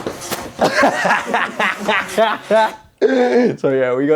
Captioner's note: laughs aloud